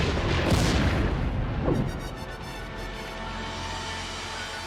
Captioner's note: explosion booms